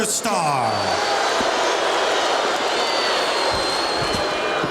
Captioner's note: audience cheering